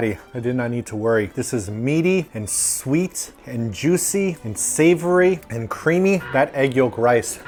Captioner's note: dino screech